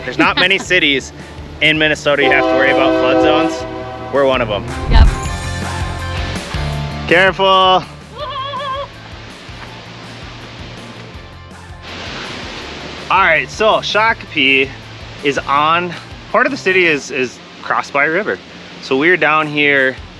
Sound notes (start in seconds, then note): 6.2 upbeat music; 8.5 yelling